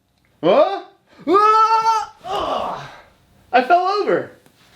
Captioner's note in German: grunzt